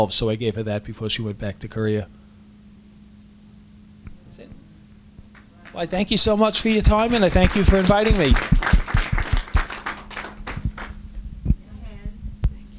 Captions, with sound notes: so I gave her that before she went back to Korea. That's it? I thank you so much for your time and I thank you for inviting me. (applause)